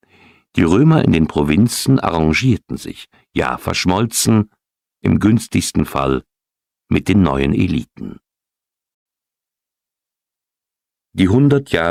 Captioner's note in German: räuspern